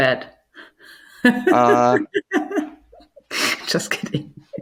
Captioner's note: laughing